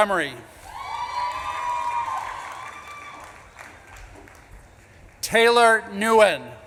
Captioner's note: audience claps and cheers